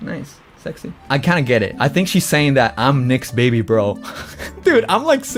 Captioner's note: laughs